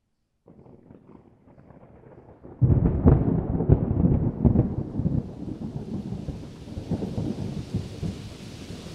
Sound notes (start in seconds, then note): 0.4 thunder; 5.4 rain